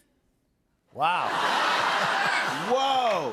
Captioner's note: laughter